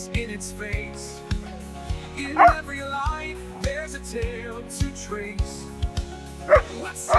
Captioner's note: laughing - playful barking and growling